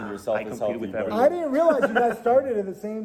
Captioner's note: laughing